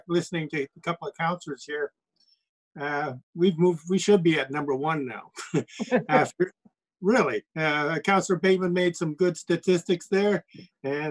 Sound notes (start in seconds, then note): 5.3 chuckles